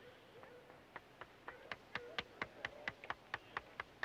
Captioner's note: clapping